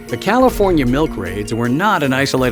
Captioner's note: voiceover